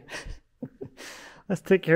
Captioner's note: laughing